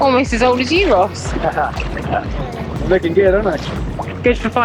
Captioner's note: haha